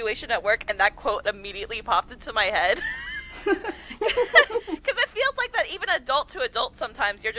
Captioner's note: laughter